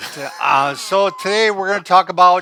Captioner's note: chuckling